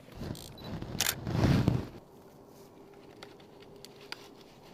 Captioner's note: camera snapping